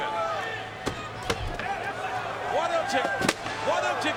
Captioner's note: table top clunks